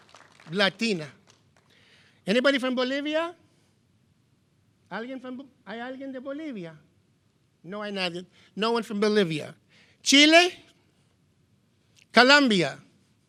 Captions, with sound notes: Latina. Anybody from Bolivia? (speaking in foreign language) No one nodded. No one from Bolivia. Chile. Colombia.